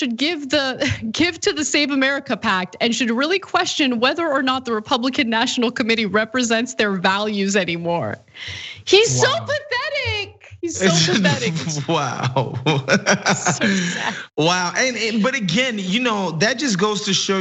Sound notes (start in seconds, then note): 10.7 laugh